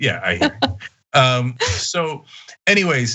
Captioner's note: laugh